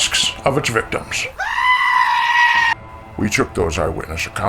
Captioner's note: scream